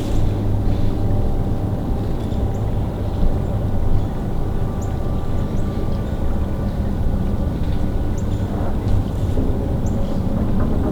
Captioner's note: distant road noise